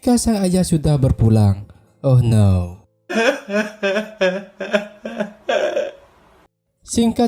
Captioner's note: laughs